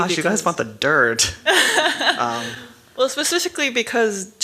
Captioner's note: laughter